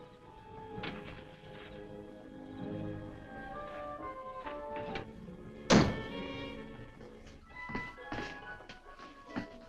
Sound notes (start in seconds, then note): 4.1 suspenseful orchestral music; 5.6 door thudding